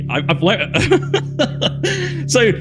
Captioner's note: laughs